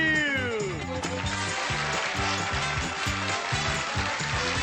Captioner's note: applause